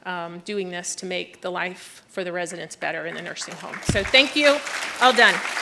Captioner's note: applause